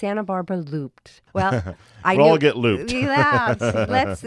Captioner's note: laughing